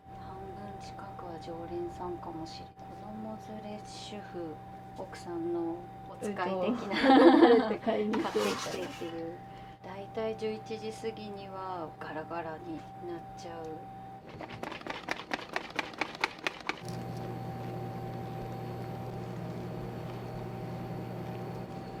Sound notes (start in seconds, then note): 6.7 laughter